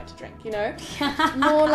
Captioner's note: laughs